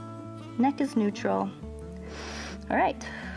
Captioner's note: inhales